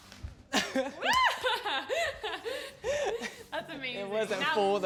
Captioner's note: laughing